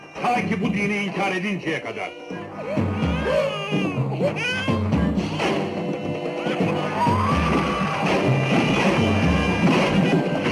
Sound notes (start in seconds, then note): 1.8 baby crying; 6.4 woman screaming